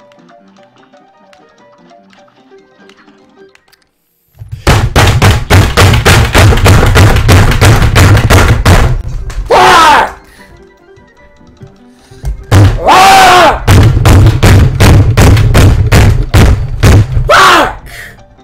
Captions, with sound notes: [ Autistic Banging ] FUUUCK *Inhales Sharply* *BANG* RAAAAGH [ Autistic Banging ] FAAAAAUUCK